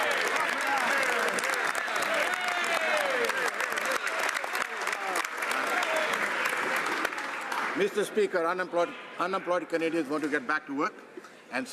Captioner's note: some Applause